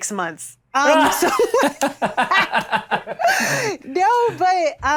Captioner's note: everyone laughs